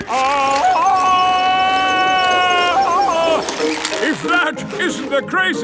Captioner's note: yelling